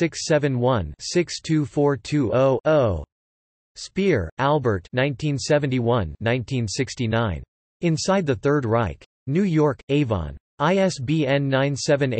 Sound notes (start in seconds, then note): 7.7 in German